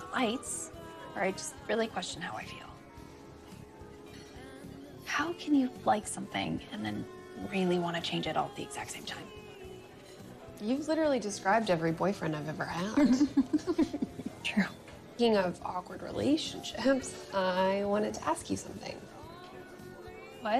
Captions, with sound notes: that I just really question how I feel. How can you like something and then really y want to changt all at the exact same time? You've literally described everery boyfriend I've ever ha. [chuckling] True. What?